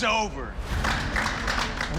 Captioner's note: applause